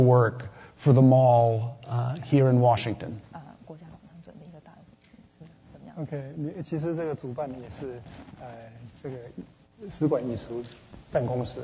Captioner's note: speaking Mandarin